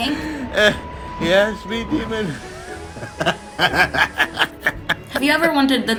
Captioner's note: laughs